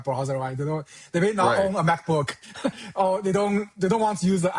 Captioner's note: chuckles